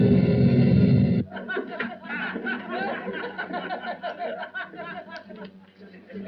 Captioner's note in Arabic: موسيقى درامية; ضحك